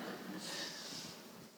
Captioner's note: audience laughing